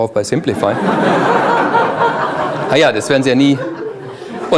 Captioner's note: audience laughs